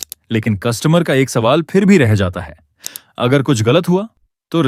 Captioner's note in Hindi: नाक से की जाने वाली आवाज़